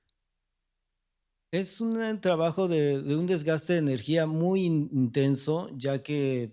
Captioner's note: speaking spanish